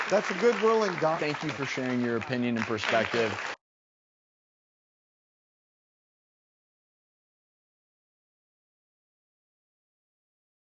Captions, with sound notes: That's a good ruling, Doc. Thank you for sharing your opinion and perspective. Thank you. (audience applause)